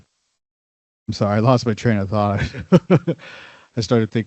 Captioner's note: chuckles